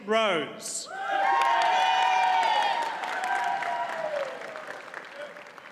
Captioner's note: audience cheers and applauds